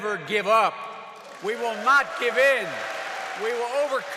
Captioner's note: applause